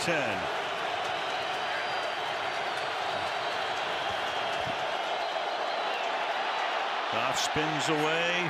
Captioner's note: crowd cheering